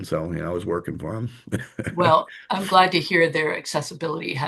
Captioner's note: laughter